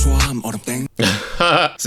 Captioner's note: laughs